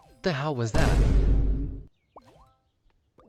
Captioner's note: boom